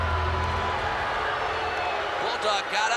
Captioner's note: bell rings; gong rings